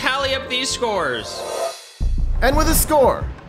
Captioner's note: air wooshes; cymbal crashes